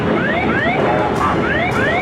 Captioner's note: plane warning blaring